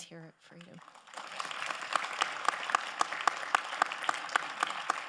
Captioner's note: all applauding